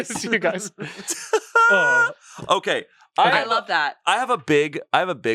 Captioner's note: laughs